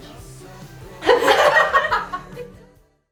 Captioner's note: laughter